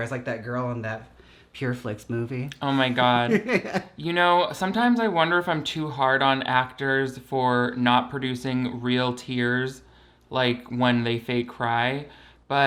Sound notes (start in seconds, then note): 2.8 laughs